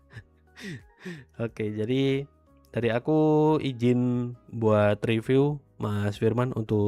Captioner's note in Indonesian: tertawa